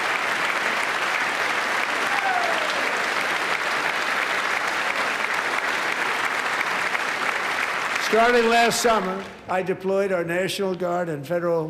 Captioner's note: applause